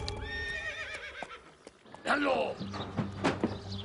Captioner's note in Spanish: Relinchos